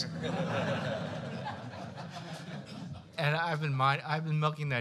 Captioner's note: laughter